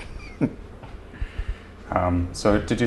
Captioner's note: laughter